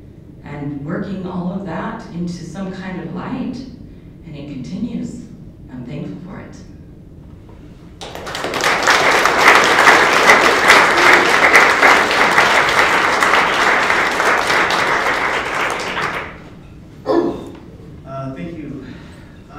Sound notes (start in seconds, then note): 8.0 applause